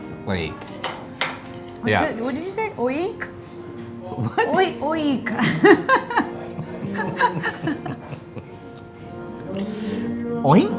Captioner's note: laughing